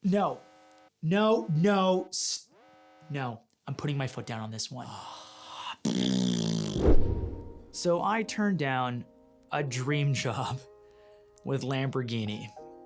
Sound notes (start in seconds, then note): 5.8 blows a raspberry